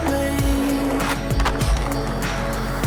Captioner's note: clicks and scraping of skateboards